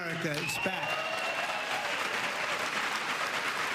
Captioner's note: applause